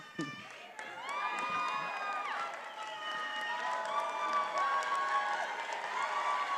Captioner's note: attendees applauding and cheering